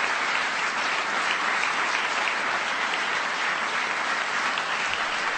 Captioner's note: applause